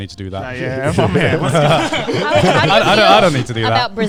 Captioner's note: all laughing